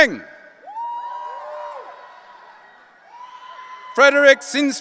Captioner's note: audience cheering